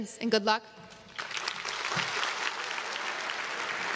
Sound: crowd claps

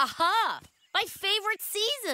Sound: giggling

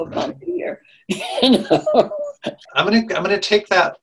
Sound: laughing

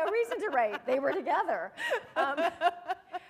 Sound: laughter

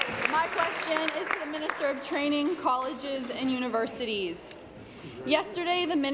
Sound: applause

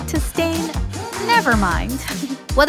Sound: chuckle

